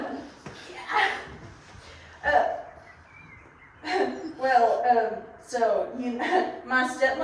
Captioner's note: stammering